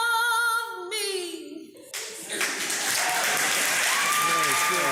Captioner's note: applause